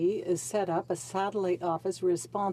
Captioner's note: speaking French